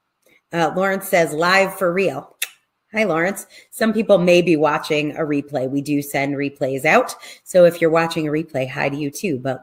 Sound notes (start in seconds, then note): 2.4 tongue clicks